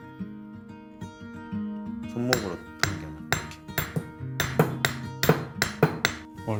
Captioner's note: sound of making rings bang bang